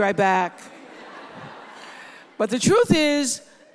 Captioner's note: audience laughs